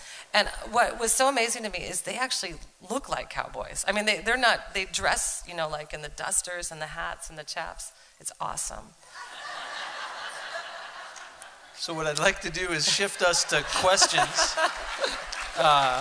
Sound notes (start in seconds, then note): 9.1 laughter; 12.9 laughter and applause